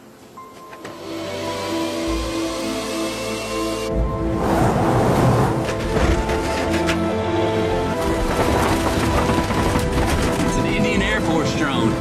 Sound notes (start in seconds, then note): 1.0 drone flying noise; 4.3 truck plowing through corn sounds